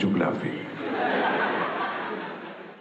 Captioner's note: laughter